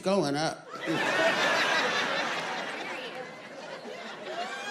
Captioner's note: audience laughing